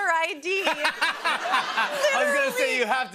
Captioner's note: laughter